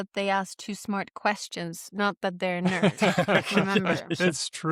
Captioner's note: laughter